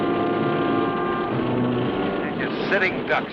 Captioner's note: dramatic music; motor whirring